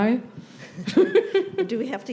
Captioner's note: laughs